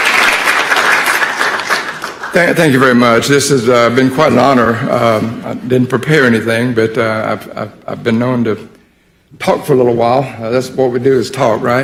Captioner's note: applause